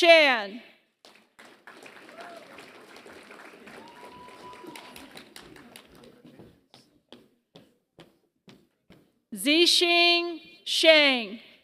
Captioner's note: applause